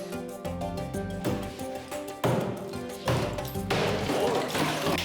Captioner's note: pounding